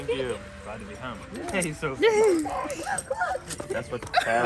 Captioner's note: laughter